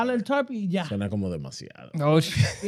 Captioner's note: speaking In Foreign Language